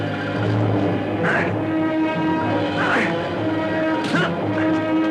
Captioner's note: grunting; dramatic music